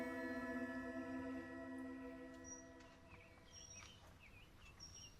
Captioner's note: birds chirping